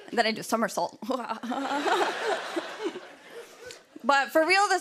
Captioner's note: laughter